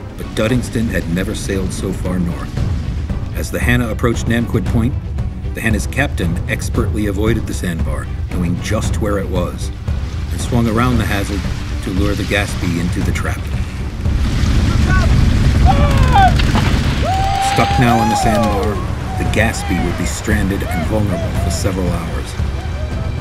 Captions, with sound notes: But Dudingston had never sailed so far north. As the Hannah approached Namquid Point the Hannah's captain expertly avoided the sandbar knowing just where it was, and swung around the hazard to lure the Gaspee into the trap. "Look out!" (Shouting) Stuck now on the sandbar The Gaspee would be stranded and vulnerable for several hours.